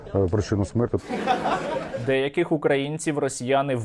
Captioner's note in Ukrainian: сміх